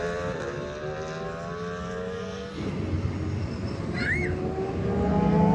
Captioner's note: engine roaring; screaming